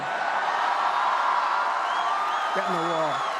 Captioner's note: applause